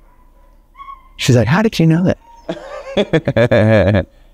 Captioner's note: laughs